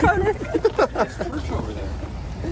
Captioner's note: laughing